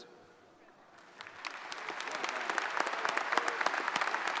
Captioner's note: audience applauds